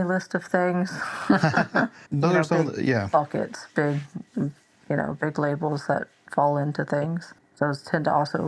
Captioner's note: laughter